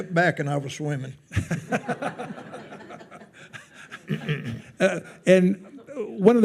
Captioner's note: attendees laughing